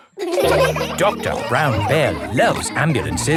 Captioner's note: all laughing